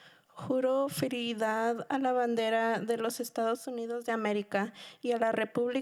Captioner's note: speaking in Spanish